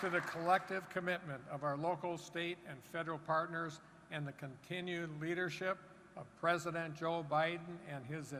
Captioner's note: applause